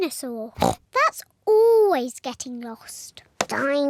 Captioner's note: giggles